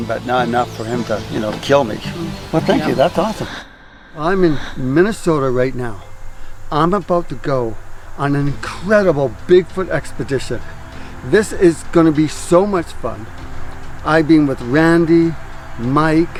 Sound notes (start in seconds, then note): 3.6 swooshing